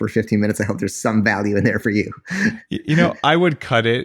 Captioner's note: laughs